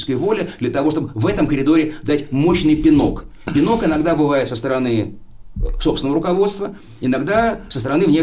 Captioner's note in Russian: откашливается